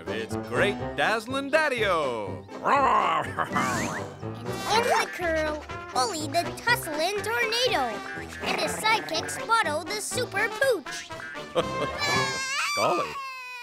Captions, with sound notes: AND IN THE CURL, OLIE THE TUSSLI'' TORNADO AND HIS SIDE-KICK, SPOT-O THE SUPER POOCH! (Zowie crying) GOLLY! (crying)